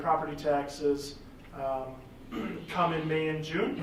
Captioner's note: clears throat